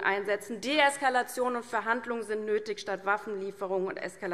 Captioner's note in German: none